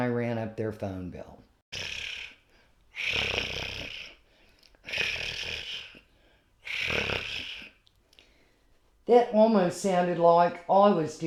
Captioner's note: cat is purring loudly